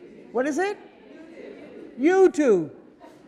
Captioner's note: audience mumble